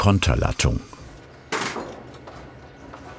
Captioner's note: short clattering